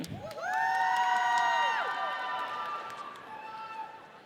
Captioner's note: audience cheers